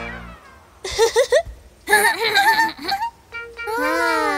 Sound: laughts

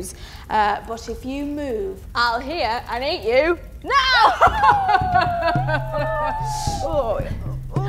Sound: evil laugh

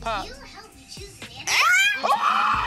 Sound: shrieking; woman screaming

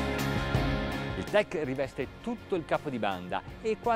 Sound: mellow electric guitar music; speaking in foreign language

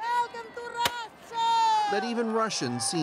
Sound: speaking russian

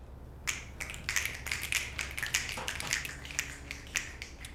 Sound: people snapping fingers

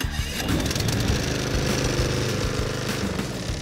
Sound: lawn mower starting up

